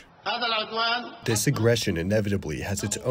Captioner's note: through translator